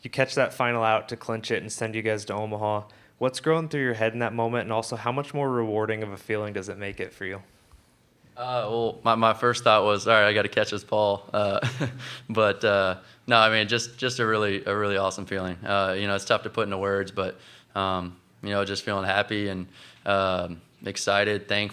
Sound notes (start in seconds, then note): 11.6 laughing